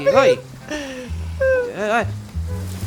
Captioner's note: screamer